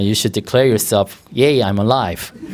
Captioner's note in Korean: 청중 웃음